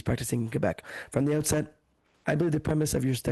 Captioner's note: speaking French